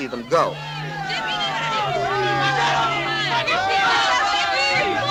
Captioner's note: crowd shouting and jeering